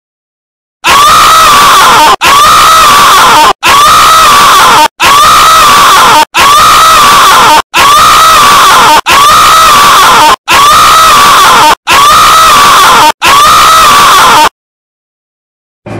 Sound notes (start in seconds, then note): 0.8 screaming